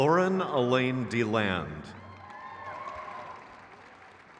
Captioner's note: crowd claps